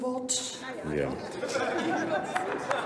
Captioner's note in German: Heiterkeit und Beifall bei Abgeordneten der CDU/CSU